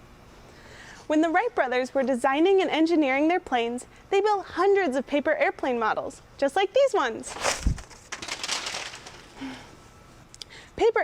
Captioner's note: paper fluttering